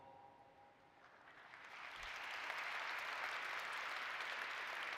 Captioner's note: applause